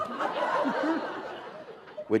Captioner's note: laughter